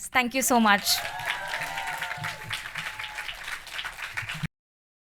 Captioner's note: cheering and applause